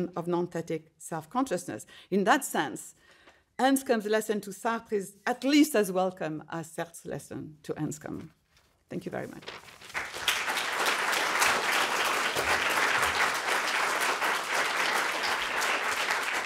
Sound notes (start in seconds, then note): 8.2 paper rustling; 9.8 audience applauding